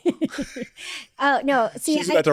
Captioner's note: laughs